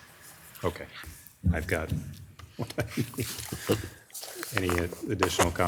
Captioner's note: chuckles